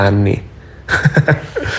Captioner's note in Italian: risate